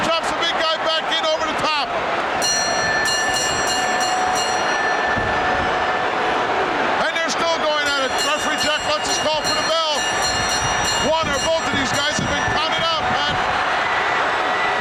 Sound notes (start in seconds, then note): 2.2 bell ringing; 10.5 bell ringing